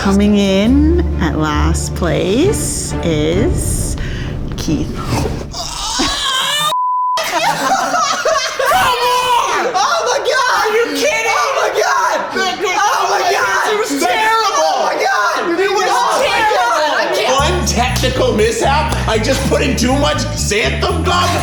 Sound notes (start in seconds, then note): 5.5 guys stifling screams; 6.7 beep; 7.2 guys laughing